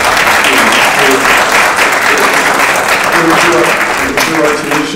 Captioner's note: applauding drowning out speaker; audience applauding